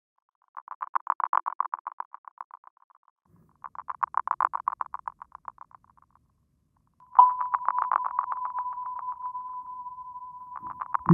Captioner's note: RADAR and sonar type sounds